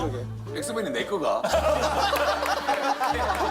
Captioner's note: laughter